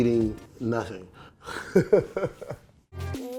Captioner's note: laughs; rnB music